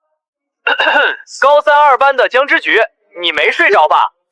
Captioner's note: cough cough